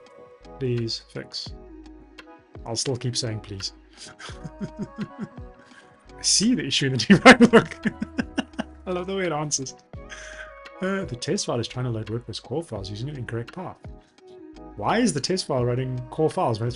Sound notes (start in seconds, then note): 4.0 laughs; 7.1 laughs